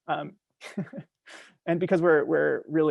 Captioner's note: chuckling